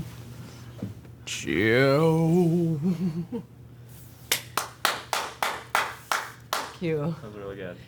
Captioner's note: claps